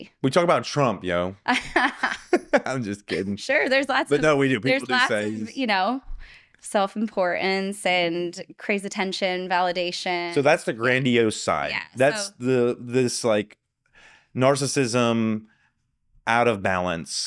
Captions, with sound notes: We talk about Trump, yo. (laughing) I'm just kidding. Sure, there's lots of-- But no, we do, people do say-- There's lots of, you know, self-importance and crazy attention, validation. So that's the grandiose side. That's this narcissism out of balance.